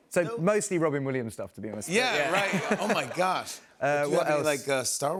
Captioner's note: laughter